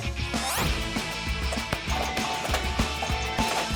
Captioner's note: bells ding